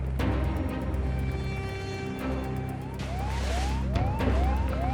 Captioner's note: sirens blaring